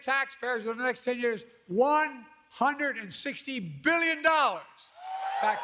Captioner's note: applause